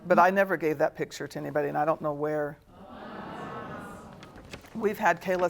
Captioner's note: audience murmuring